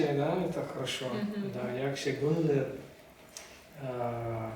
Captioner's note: speak Turkmen